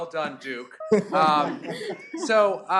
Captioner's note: laughter